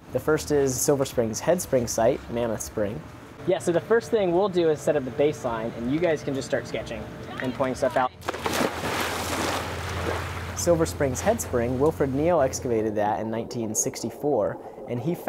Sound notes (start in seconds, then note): 8.2 splash